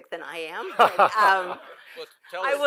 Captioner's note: laughter